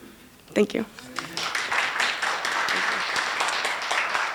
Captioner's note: applause